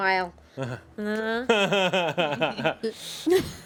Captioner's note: Eric laughs